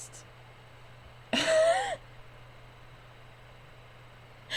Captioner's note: wheezy laugh